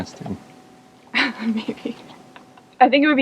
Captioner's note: laughing